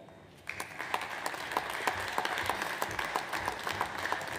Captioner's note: audience applauds